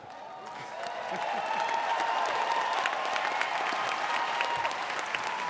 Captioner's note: audience applauding